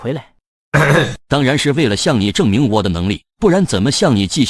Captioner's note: cough